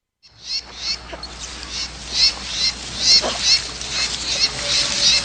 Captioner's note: birds chirping